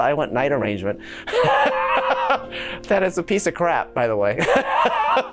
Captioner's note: he laughs